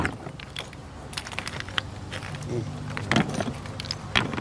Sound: rooming engine, knocking stones

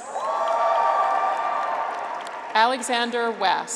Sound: graduates cheer

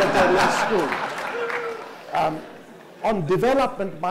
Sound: audience laughs

